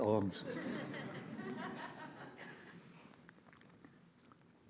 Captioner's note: audience laughs